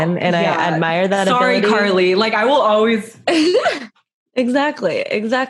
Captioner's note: laughs